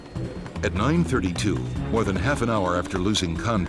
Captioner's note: voiceover